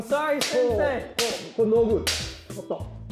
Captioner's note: speaking japanese